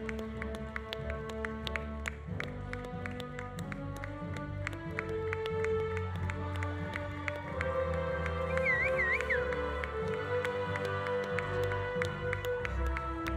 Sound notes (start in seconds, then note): 6.0 audience applauding; 6.2 audience cheering